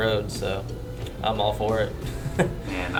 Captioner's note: chuckles